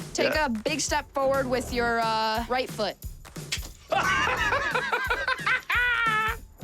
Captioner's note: laughs